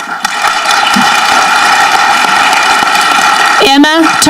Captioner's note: audience clapping